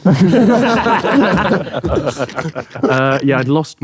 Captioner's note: group laughing